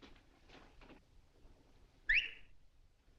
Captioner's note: whistle